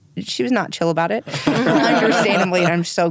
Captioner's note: laughing